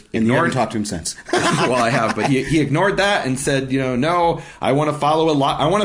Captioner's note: laughing